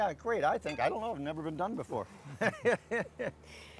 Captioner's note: laughs